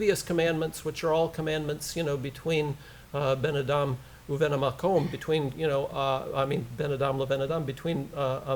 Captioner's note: foreign language